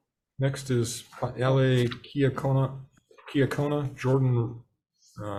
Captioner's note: stumbles over words